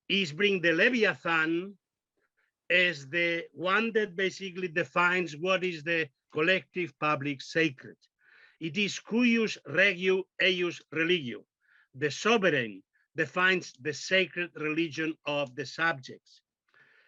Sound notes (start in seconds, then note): 9.7 speaking in foreign language